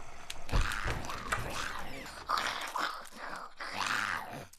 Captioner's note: creaking